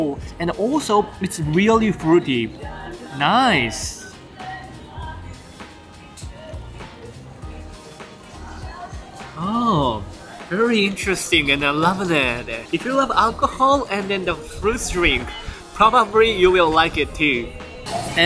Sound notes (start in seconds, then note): none